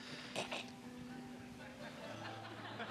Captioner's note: snorts with laughter; laughter